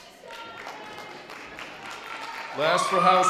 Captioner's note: light audience applause